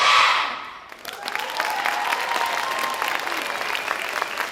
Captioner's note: audience applauds